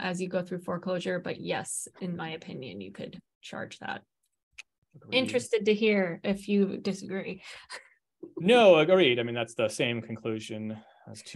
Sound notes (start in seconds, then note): 7.7 chuckles